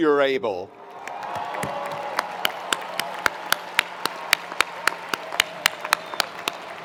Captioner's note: attendees cheering; attendees applauding